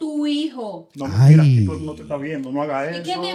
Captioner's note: speaking In Foreign Language